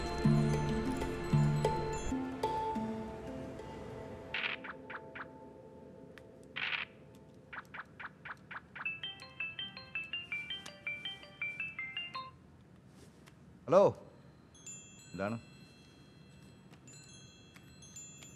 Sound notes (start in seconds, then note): 8.8 incoming call; 15.8 wind chimes